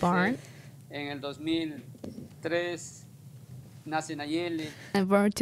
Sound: speaks in Spanish

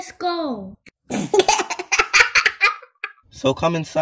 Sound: children laughing

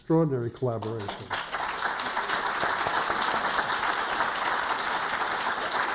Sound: applause

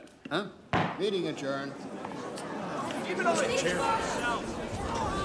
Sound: chattering

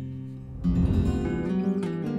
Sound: air swishes

